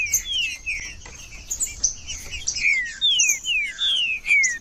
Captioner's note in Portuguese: trinca ferro cantando